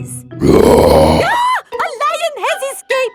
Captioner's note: roars; screams